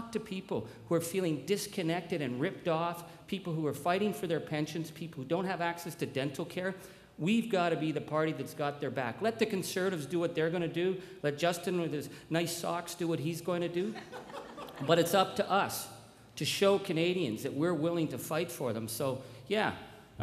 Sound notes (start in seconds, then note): 13.8 crowd laughs